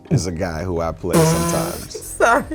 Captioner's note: laughs